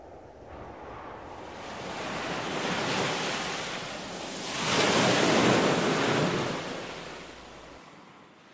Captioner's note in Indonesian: angin dan deburan ombak